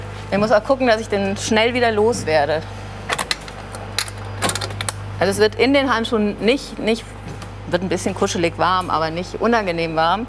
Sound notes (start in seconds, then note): none